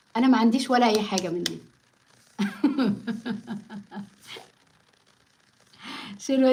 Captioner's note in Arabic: ضحك